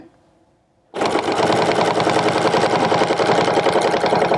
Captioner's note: machine whirring